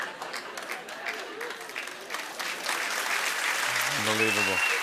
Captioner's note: applause